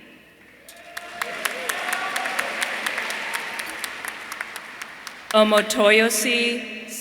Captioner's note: audience applauding; audience cheering